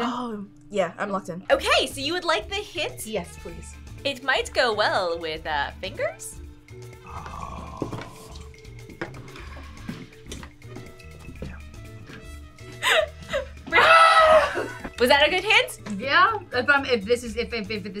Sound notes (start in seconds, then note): 8.4 upbeat music; 12.8 laughs; 13.8 screams